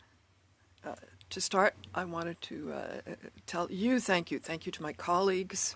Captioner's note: speaking French